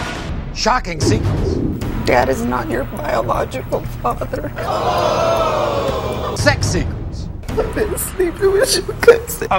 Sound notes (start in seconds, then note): 4.6 audience screaming